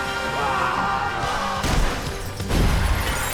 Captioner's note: screaming